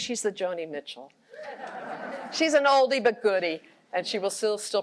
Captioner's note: laughter